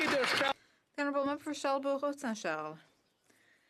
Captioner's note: some Applause